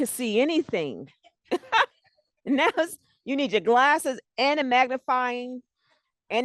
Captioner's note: laughs